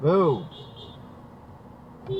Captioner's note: more honking from behind